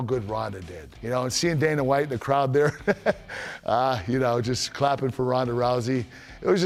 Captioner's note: laugh